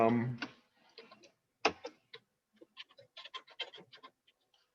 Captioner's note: keyboard clicking